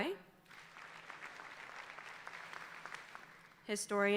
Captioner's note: audience applauding